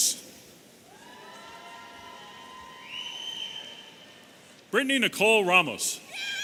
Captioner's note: audience cheering and whistling